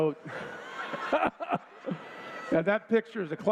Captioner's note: laughter